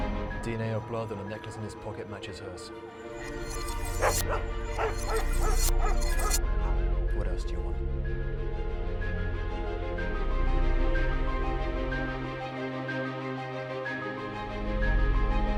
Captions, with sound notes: - DNA of blood and a necklace in his pocket matches hers. (dogs barking) What else do you want? (bright music)